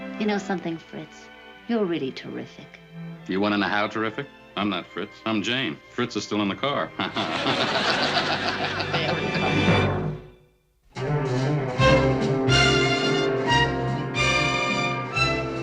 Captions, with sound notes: You know something, Fritz? You're really terrific. Do you want to know how terrific? I'm not Fritz. I'm Jane. Fritz is still in the car. [LAUGHS] Very funny. [THEME MUSIC PLAYING]